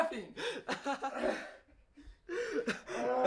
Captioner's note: laughs; groans